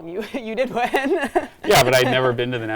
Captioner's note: giggles